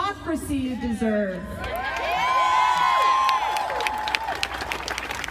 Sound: audience cheering

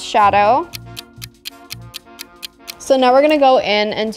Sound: clock ticking

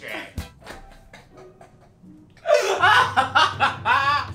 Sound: laughing

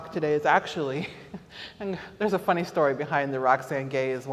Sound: chuckles

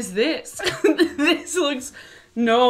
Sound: laughs

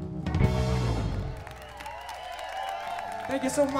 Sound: applause

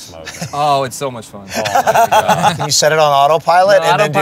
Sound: laughter

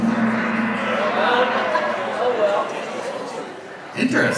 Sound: gong bangs

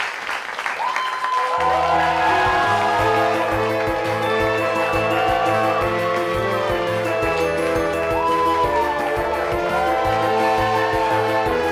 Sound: applause

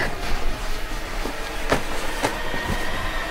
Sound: tapping on floor looking for shoe

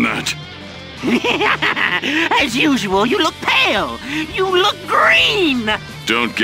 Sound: maniacal laugh

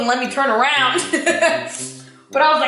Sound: laughs

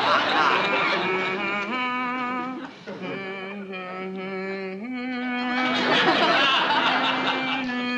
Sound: continues humming

